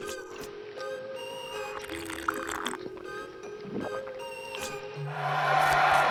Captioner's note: playful music; slurping; crowd cheering